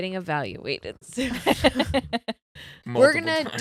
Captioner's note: laughing